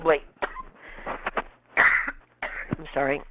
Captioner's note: coughs